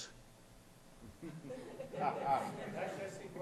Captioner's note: laughter